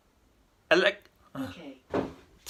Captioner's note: sighs